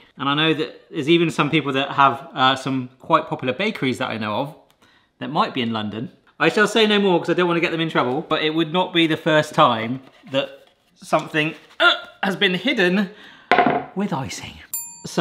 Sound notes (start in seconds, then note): none